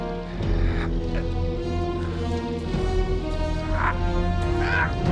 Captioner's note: Carl grunting